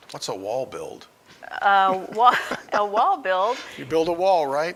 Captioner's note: laughing